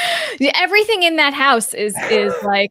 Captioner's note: chuckles